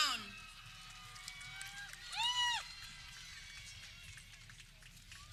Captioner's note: people clapping